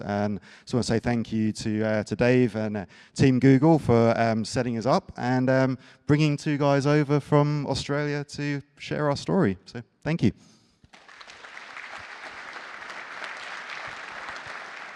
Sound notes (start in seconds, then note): 10.8 applause